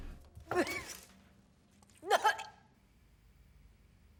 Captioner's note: gagging, spitting